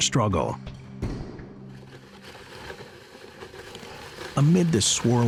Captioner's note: sled rustling